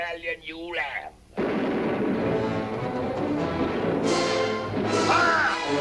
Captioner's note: guns firing; anticipatory music